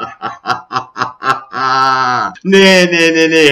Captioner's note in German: Hahahahahahahahahahahahahahaaaaaaaaaaaaaaaaaaaa